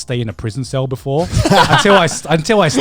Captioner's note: chuckling